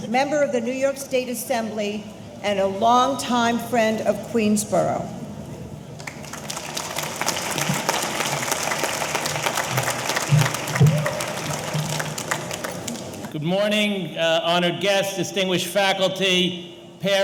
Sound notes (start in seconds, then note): 6.0 audience applauding